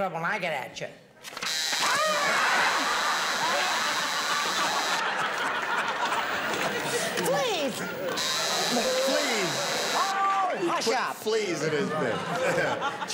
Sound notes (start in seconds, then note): 1.4 long buzzing